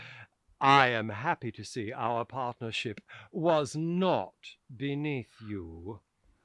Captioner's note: snidely